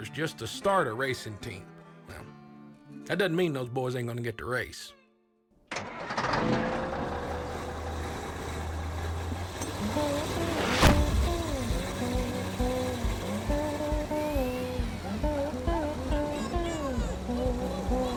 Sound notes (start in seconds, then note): 5.9 engine turning over; 10.2 bluesy music; 15.9 crowd cheering